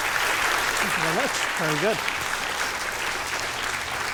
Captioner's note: applause